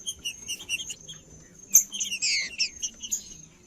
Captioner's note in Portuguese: trinca ferro cantando